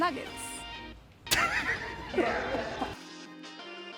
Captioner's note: laughter